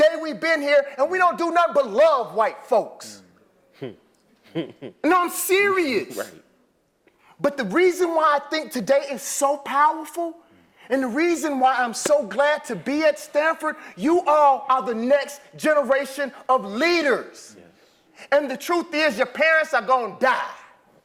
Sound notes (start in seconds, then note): 4.4 laugh